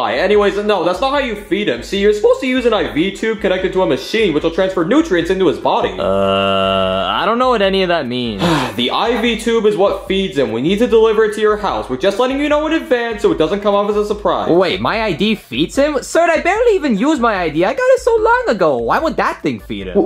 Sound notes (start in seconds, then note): 8.2 doctor sighing